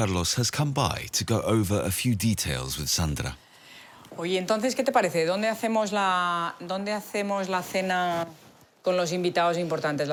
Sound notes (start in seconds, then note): 3.2 speaking foreign language